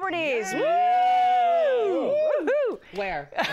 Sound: all cheer; laughter

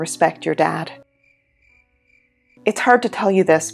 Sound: crickets

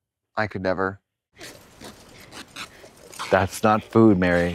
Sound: bag rips

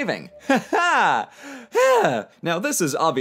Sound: exhausted and slightly disgusted sigh

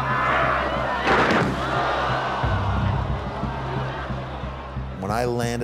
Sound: crowd gasping

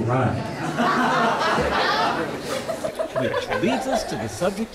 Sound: laughter

